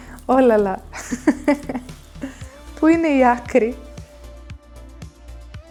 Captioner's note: laughs